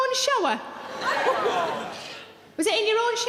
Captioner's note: audience laughing